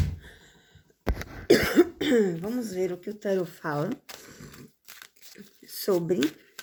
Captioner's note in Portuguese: limpando a garganta; tosse